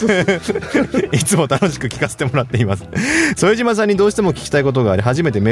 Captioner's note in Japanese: 笑い